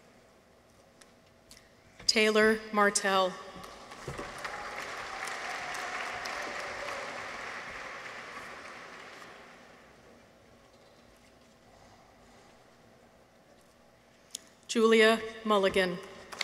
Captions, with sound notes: Taylor Martell. -(people cheer) -(audience applauds) Giulia Mulligan.